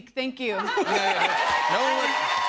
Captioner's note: laughs; cheers and applause